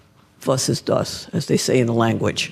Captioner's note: speaks in foreign language